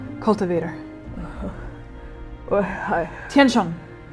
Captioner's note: quiet groaning